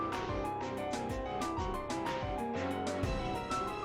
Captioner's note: rumble…!!